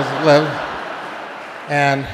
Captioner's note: audience laughing